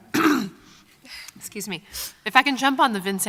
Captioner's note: clearing throat